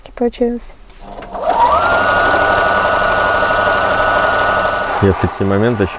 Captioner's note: loom making noise